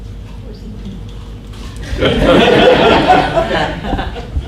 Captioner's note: audience laughter